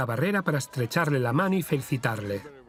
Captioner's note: voiceover